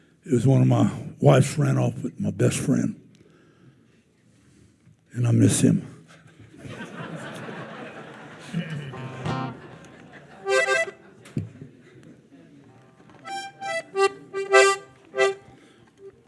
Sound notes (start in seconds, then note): 6.4 attendees laughing; 9.3 bright music